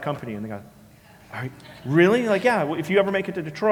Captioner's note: laugh